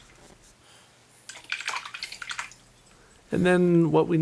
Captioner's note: water sloshing